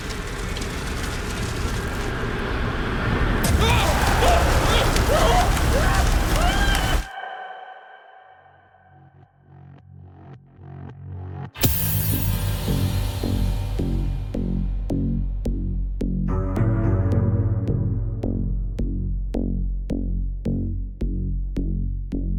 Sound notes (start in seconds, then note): 0.8 ominous music continues; 3.5 Tyler screams; 9.4 dark synth music; 18.4 dark synth music continues